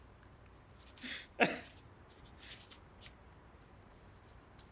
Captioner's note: Jack chuckles